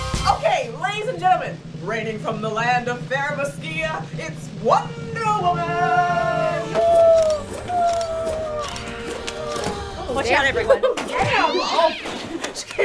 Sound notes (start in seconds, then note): 6.5 rope whooshing; 7.1 cameras flashing; 9.4 girls laughing